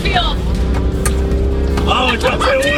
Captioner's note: loud clanking